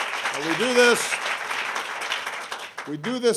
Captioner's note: applause